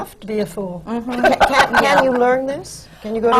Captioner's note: laughter